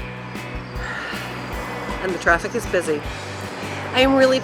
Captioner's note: sigh